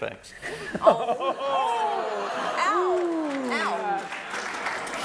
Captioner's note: laughter